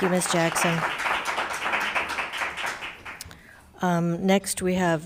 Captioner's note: crowd applauding